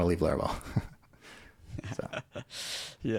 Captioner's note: laughing